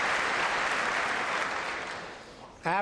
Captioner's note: applause